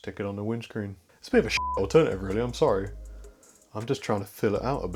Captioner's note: beep